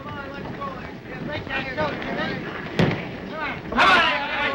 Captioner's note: men chatter